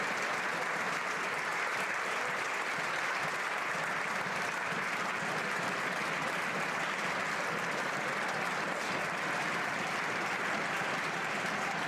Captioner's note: applause